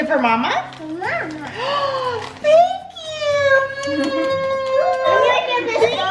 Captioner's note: gasps; kids talking and laughing